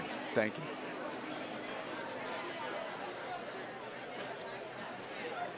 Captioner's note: attendees chattering